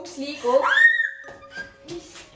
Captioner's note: fright/Screaming